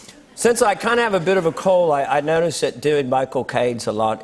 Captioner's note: British accent